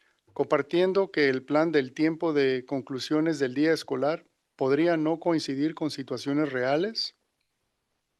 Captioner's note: non-english speech